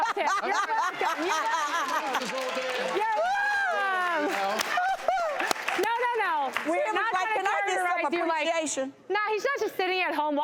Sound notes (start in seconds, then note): 1.8 laughing; 2.6 clapping